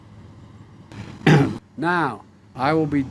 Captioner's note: awkward throat clearing